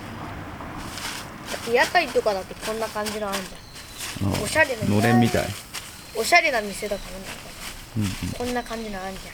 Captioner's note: laughs